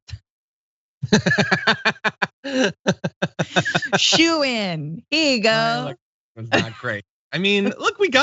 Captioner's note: laugh